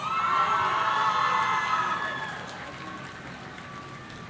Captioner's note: audience cheering